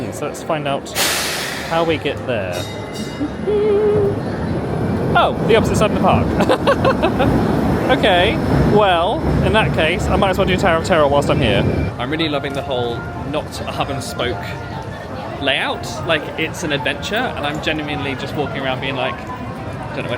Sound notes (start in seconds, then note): 6.3 laughing